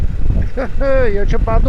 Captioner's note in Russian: смех